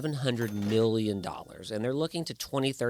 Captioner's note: cash register ringing